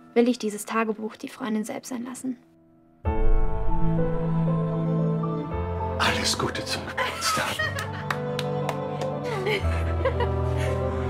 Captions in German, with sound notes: will ich dieses Tagebuch die Freundin selbst sein lassen. Alles Gute zum Geburtstag. (klatschen) (Anne lacht fröhlich)